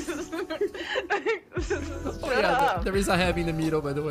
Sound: laughter; laughs

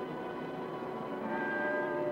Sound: bells chiming

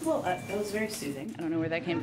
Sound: a cellphone chimes

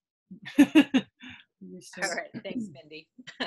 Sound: chuckles

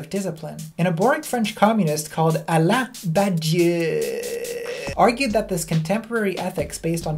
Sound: overpronounced

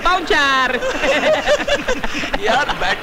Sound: laughs

